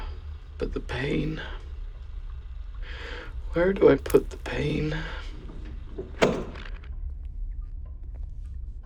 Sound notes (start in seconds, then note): 0.0 laboured breath; 4.0 needle breaking skin; 5.6 recording clicks off